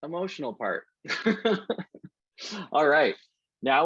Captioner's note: laughs